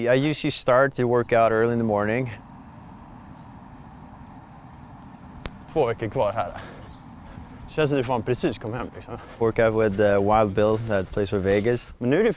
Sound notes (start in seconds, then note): 5.9 athletes speaking in foreign language